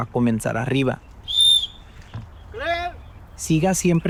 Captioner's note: whistle blows